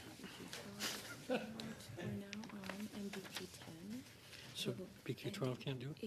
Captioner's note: laughter